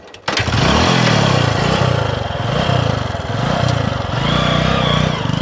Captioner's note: motorbike engine revving